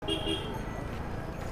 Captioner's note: klaxon